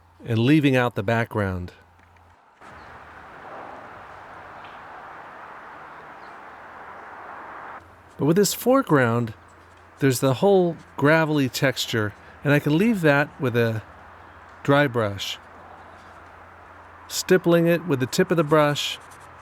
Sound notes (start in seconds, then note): 3.5 cars passing